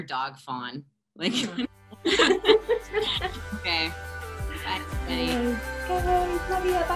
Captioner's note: laughter